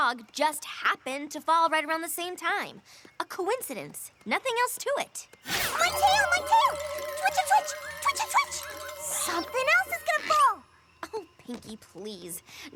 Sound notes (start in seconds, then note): 5.5 rattle!